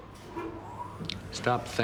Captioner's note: elevator whirring